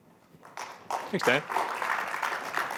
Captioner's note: applause